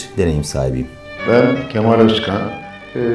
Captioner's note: voice-over